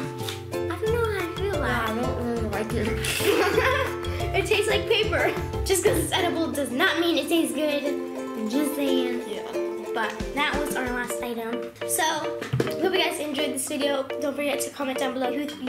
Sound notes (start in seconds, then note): 3.0 laughs